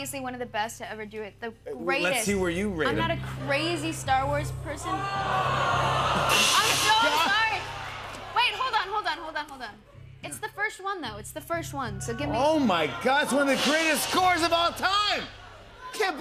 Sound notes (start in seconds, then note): 4.8 audience groaning